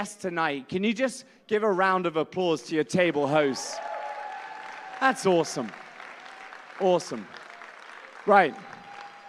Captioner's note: applause